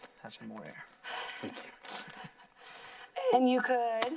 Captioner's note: teachers laughing